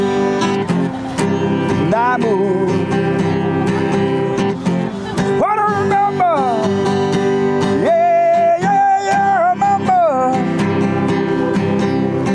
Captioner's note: crowd cheering